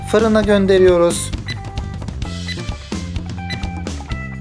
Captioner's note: 🔥 Oven Sound 🔥